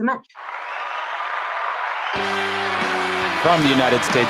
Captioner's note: applause